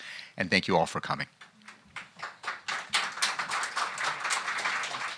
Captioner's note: applause